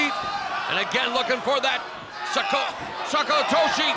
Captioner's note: speaks Japanese